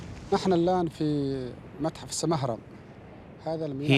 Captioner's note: Arabic spoken audio